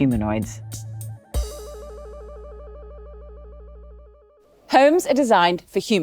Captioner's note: electronic waves